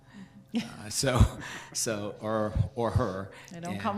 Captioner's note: staff members chuckle